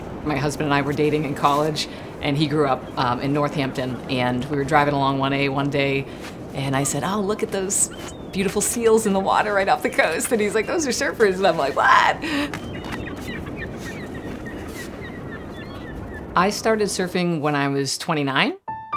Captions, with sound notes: My husband and I were dating in college, and he grew up in North Hampton, and we were driving along 1A one day, and I said," Oh, look at those beautiful seals in the water right off the coast," and he's like, "Those are surfers," and I'm like, "What?" (birds chirping) I started surfing when I was 29.